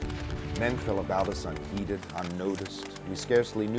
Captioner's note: voiceover